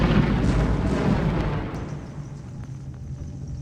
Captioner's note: thunder roaring